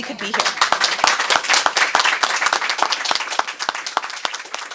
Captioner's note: applause